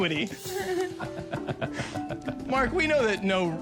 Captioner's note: Sharks Laughing